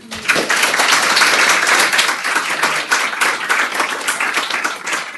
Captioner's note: applause